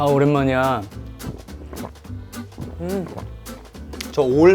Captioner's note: gulp